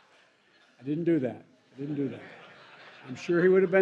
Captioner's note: laughter